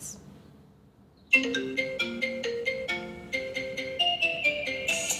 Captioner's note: ringtone plays